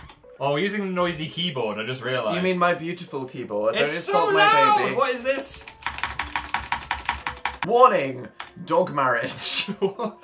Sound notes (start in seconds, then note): 5.6 more frantic clicking noises; 9.4 both laugh